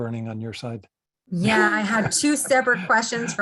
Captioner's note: chuckles